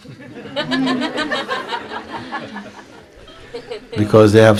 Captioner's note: laughter